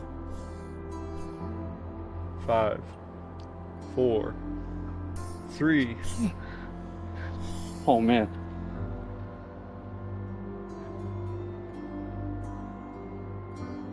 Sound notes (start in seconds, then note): 0.1 somber music; 6.0 grunting noise; 10.8 somber music